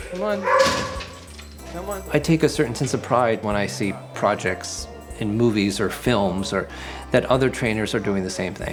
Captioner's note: narrating